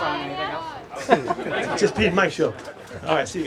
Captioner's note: reporters laughing